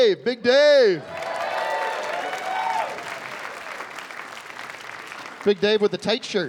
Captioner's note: cheering and applause